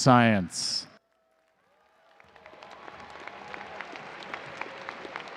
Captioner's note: audience cheering and applauding